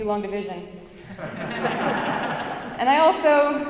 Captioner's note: audience laughs